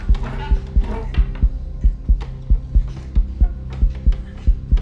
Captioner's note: faster and stronger heartbeat